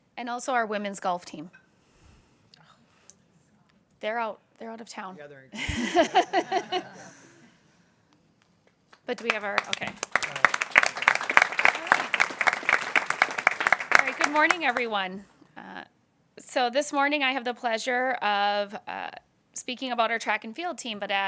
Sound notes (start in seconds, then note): 5.5 people laughing; 10.9 people clapping